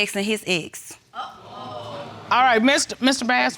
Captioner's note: audience exclaiming